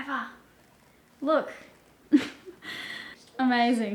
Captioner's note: laughs